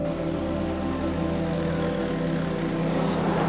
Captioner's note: cars rumbling